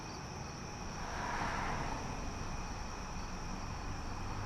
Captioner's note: traffic whirs